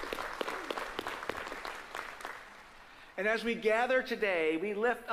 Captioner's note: applause